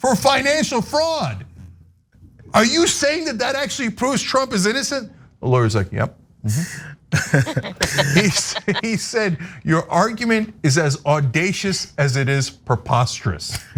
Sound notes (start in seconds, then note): 7.2 laugh